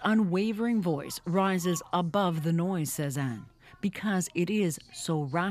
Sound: speaking french

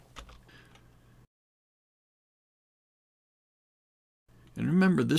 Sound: silence

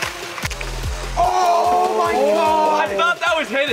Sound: yelling

